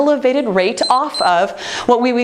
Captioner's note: timer beeps